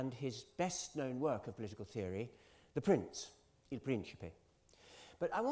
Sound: italian

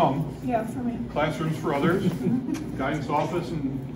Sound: visitors chuckle

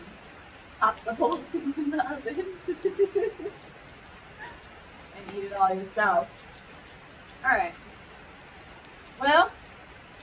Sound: laughs

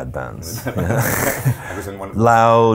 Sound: laughs loudly

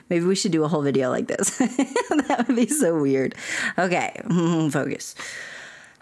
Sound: laughter

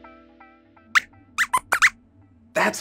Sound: squeaks squeaks

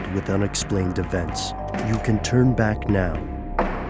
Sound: doorbell

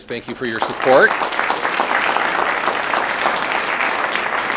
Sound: audience applauds

